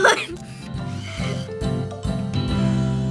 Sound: camera snaps, film whirs

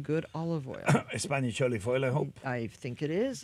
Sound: coughs

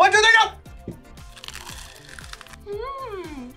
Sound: bread crunches

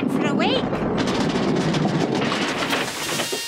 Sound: rumbling

